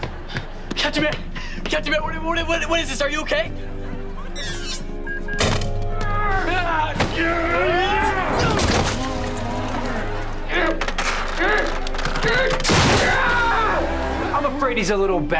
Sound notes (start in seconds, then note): 11.2 grunting; 12.2 screaming